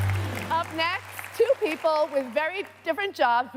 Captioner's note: applause